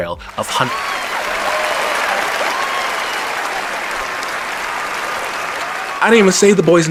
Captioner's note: raucous applause